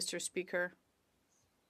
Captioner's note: speaking French